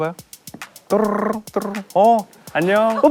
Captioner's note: hearts beating faster